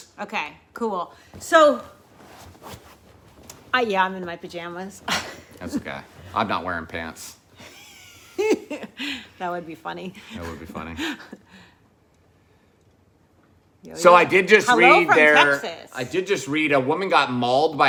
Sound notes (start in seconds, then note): 5.2 chuckles; 7.6 laughs